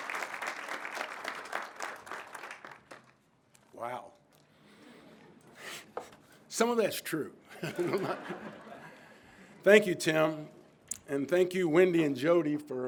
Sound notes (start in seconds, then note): 7.5 all laughing